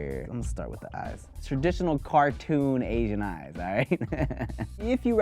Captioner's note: laughs